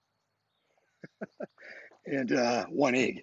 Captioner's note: laughs